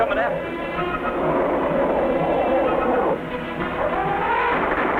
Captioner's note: mammoth roaring; guns firing